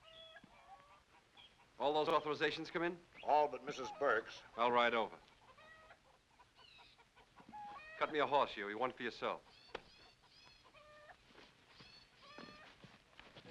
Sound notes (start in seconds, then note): 0.0 birds chirp; 0.0 chickens cluck; 5.9 chickens cluck; 10.7 chickens cluck